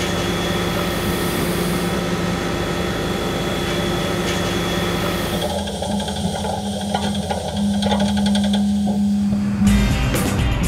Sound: mechanical sounds

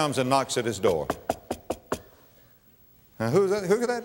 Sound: knock, knock, knock, knock

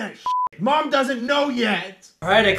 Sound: getting whiny

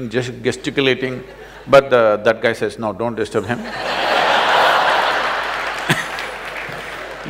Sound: laughter/Applause; laughs

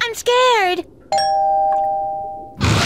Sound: doorbell ringing

